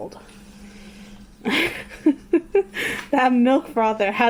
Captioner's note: laughs